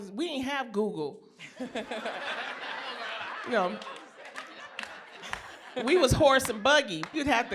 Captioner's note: laughter